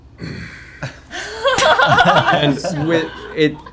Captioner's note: laughter